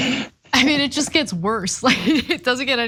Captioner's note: laugh